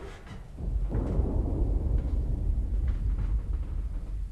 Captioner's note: thunder rolling